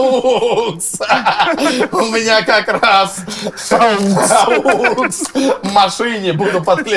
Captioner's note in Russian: смех